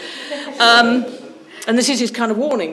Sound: audience members laughing

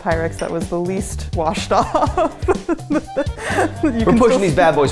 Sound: laughing

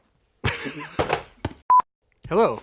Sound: laughing; signal beep; upbeat music

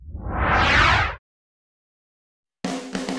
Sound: sound effect

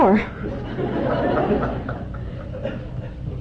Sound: laughter

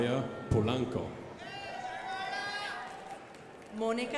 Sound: crowd applauding

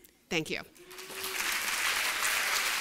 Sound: applause

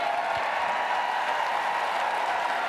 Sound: cheering!!

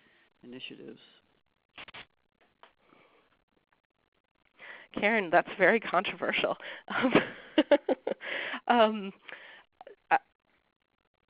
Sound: chuckles

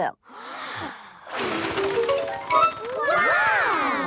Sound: big breath and blow

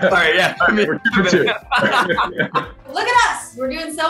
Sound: laughing

